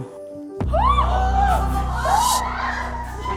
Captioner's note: insane sound effect